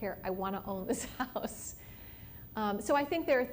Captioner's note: laughs